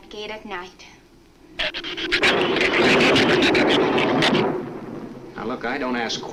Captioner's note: shrew chatter; thunder claps